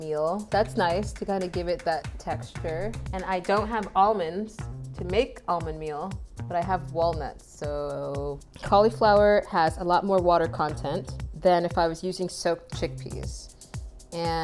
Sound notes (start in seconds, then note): none